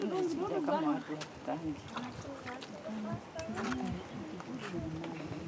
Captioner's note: woman speaking foreign language